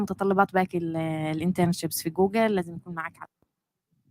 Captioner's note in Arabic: لغة أجنبية